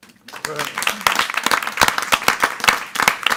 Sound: group claps

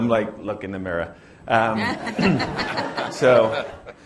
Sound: laughter

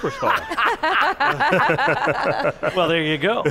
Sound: laughing

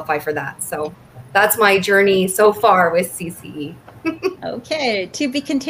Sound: laughs

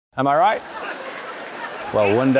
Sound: audience laughing

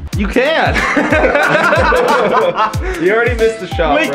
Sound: laughter

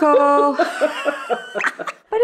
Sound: laughter

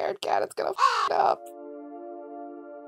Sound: caw

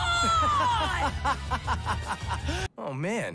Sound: laughing

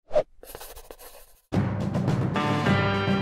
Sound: paper rustles; air whooshes; pencil scratches; intense music

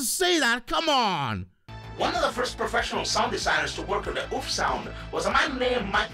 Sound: ChatGPT voice

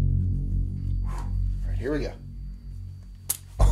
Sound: ominous music; exhales

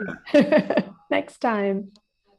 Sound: laughing

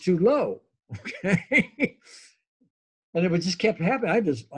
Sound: laughs

